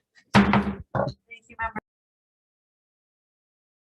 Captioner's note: gavel tapping